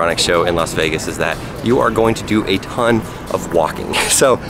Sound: chuckles

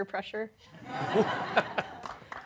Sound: laughter

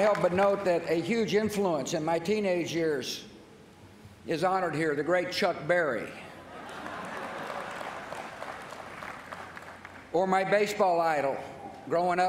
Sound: laughter

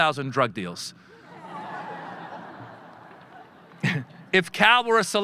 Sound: audience laughing

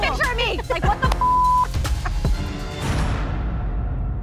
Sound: laughs

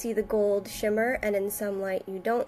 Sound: none

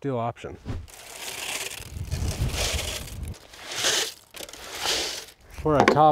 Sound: concrete mix pouring in

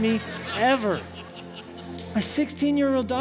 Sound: laughter

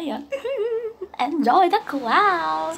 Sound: weird laugh

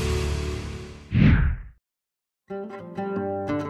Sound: air whooshing; calm maqam music

